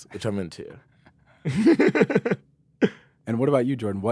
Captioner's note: laughs